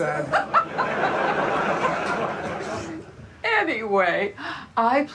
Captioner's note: Joanna and audience laughing